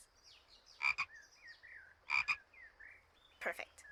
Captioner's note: frog ribbits